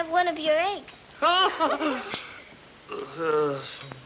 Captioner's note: laughs. groans